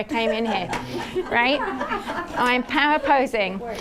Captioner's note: audience laughing